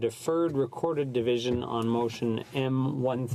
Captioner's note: speaking French